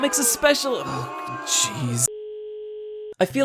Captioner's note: crowd booing